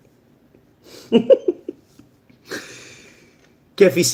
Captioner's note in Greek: γέλια